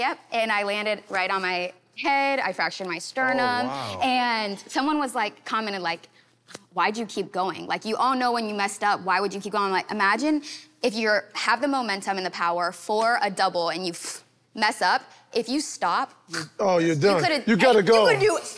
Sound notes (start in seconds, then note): 15.8 imitating snapping noise